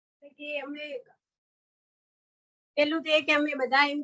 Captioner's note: non-english speech